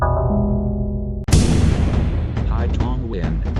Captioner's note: Zuma's Revenge "boss battle intro" sound effect